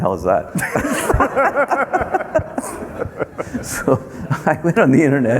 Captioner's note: everyone laughing